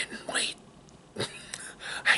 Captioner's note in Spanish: risa